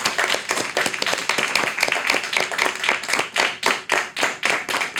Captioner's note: audience applauding